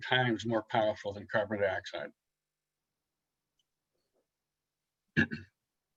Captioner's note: clears throat